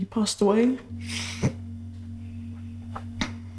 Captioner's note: sobs